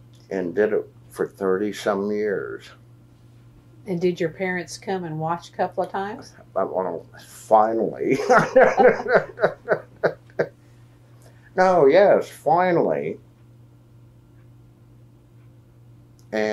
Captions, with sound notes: and did it for thirty-some years. Did your parents come and watch a couple of times? Finally. (Laughs) No, yes, finally.